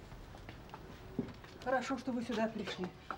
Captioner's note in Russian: none